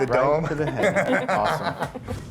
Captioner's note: laughing